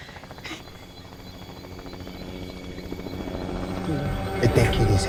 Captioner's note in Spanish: Ruido de avioneta